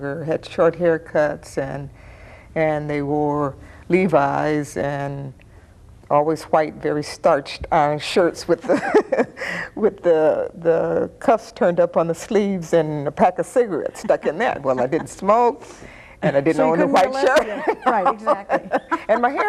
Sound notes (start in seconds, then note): 8.7 chuckling; 17.4 both laughing